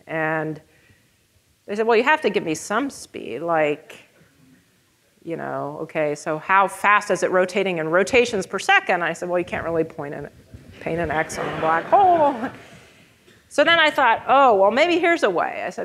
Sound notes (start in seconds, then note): 10.8 audience laughing